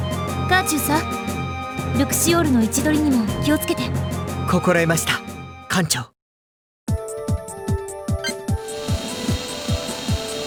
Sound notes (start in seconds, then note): none